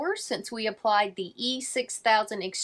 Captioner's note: none